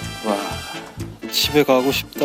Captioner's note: groaning